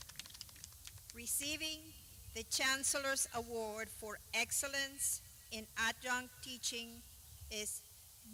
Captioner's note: clapping